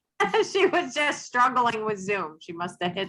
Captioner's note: laughs